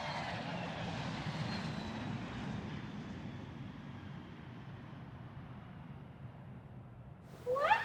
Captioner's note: planes zooming